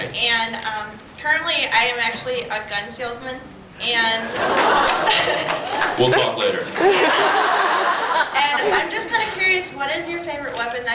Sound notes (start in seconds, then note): 6.7 laughs